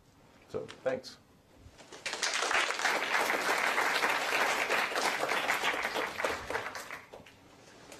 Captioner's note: applause